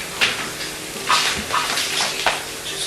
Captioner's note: radio